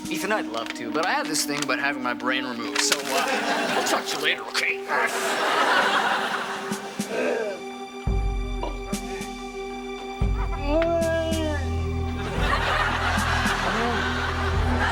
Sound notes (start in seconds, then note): 7.1 moaning; 7.3 ominous music intensifies